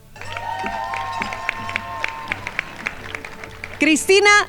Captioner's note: crowd applauding